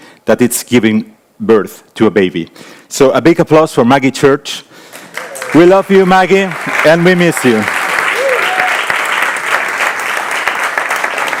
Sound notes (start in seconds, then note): 7.7 audience applauding